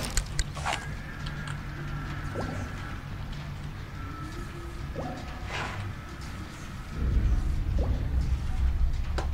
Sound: very distant screaming

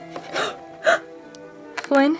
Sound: gasps

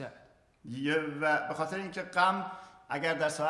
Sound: speaking in farsi

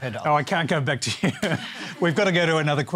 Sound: laughs

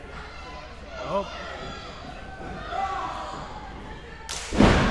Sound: crowd yelling

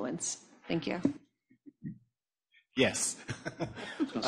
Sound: laughs

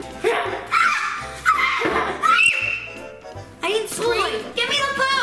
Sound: screams

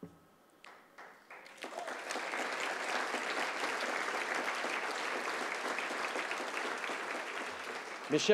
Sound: applause

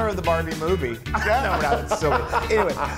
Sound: laugh

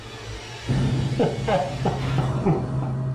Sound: laughing

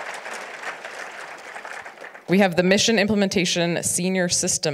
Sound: audience applauds

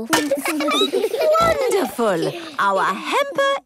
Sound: laughing, snorts

